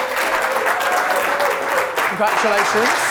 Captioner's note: audience applauding